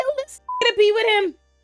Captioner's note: beep